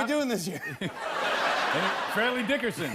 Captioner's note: laughter